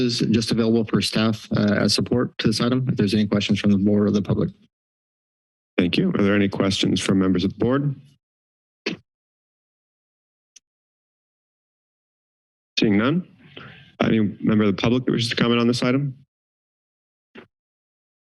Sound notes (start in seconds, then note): 8.5 silence